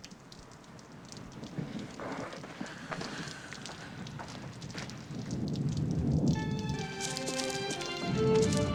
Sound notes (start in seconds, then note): 5.1 thunder